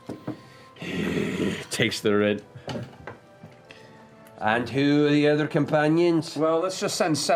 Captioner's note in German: stöhnt